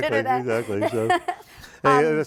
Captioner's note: laughing